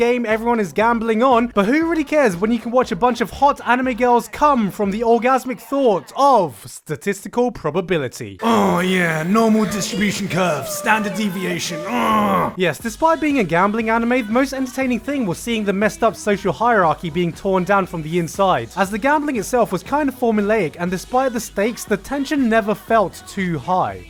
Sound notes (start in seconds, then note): 11.4 moan of pleasure